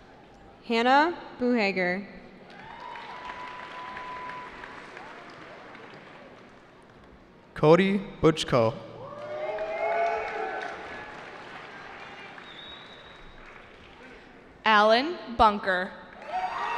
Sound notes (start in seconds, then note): 2.5 cheering; 8.9 cheering